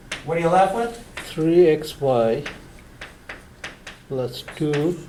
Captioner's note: voiceover